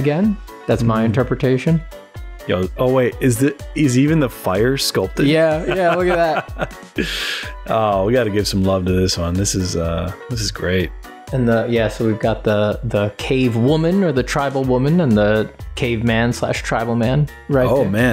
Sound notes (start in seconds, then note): 7.2 laughter